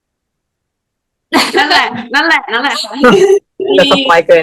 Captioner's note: laughs